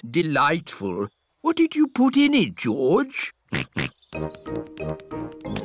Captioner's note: snorts